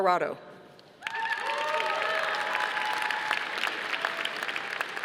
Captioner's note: audience applauding